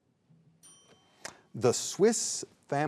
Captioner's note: timer rings